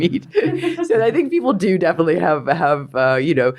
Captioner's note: interviewer laughs